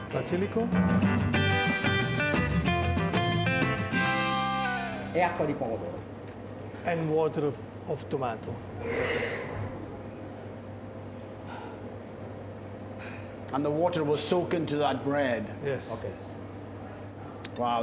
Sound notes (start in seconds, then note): 0.0 speaking Italian; 0.6 upbeat music; 5.4 speaking Italian